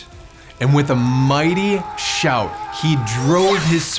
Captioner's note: St. George yelling